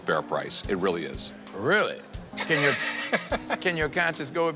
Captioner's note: laughs